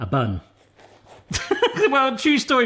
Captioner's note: laughing